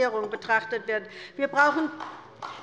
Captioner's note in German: Beifall bei der LINKEN